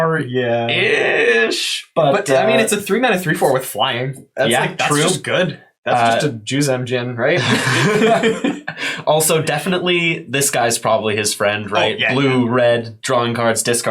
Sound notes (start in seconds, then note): 7.3 both laugh